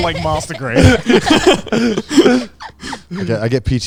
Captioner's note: everyone laughing